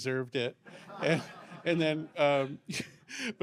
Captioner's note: laughter